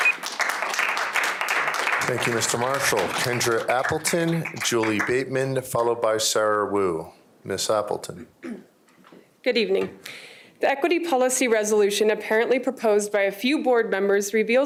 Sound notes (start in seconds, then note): 4.3 applause